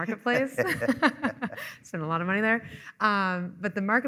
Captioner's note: laughing